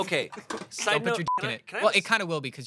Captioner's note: beep